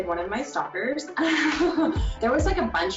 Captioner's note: laughing